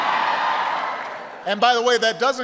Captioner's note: applause